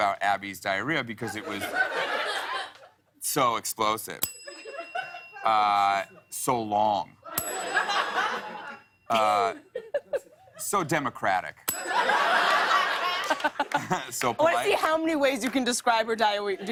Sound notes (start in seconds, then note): 1.2 laughter; 4.2 ding; 6.6 laughter; 7.3 ding; 11.6 ding; 11.8 laughter